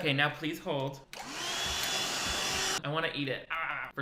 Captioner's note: vacuum humming